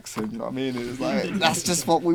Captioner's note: group laughing